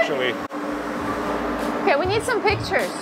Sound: machinery whirring

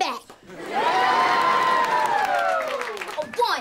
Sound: cheering

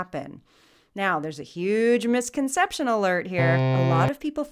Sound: buzzer

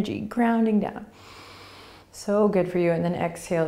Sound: inhaling

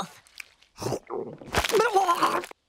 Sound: vomiting

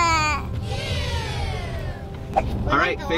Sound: crowd

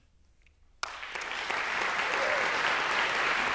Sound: applause

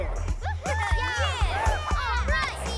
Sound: laughter and cheering

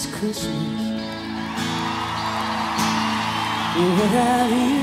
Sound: crowd cheering

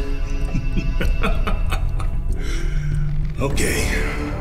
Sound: laughs

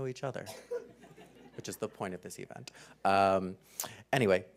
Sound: laugh

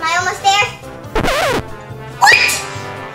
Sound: noise signal

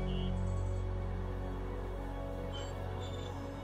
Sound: cable car creaking

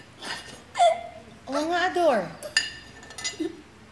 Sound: Ador laughs

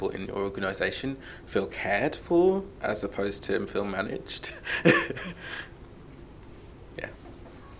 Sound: chuckles

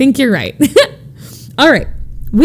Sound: laughds

